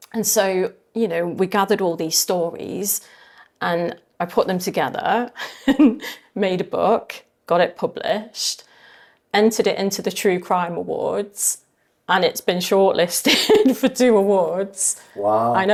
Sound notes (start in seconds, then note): 5.4 laughing; 13.2 laughing